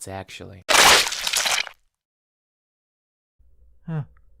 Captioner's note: loud crunch and silence rings